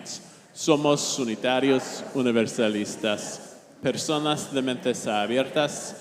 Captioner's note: speaking in foreign language